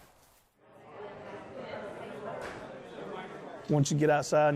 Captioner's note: chattering